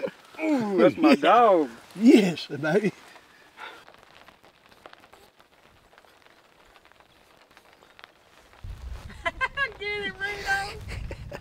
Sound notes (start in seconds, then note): 4.2 rain tapping